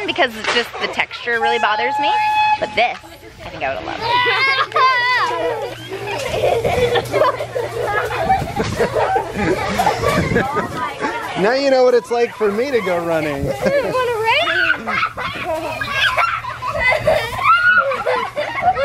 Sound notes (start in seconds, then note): 4.4 kids laughing